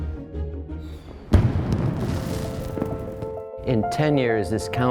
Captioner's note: fireworks explode